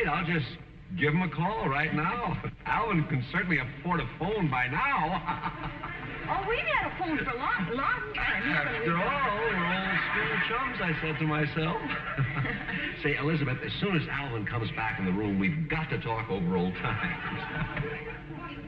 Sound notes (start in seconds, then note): 6.9 laughs; 13.5 chuckling